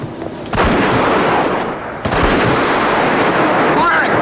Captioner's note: gun firing